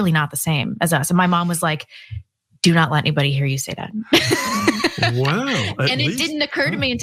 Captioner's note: laugh